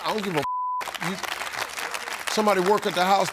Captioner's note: beep; audience applauding